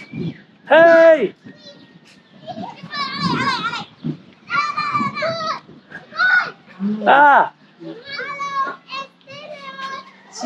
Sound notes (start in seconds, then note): 2.5 children chattering